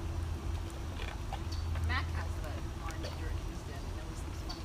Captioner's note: crunching